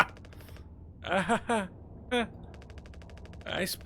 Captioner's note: Daisuke laughs nervously